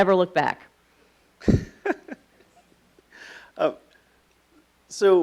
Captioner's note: laughing